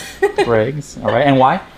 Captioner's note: laughs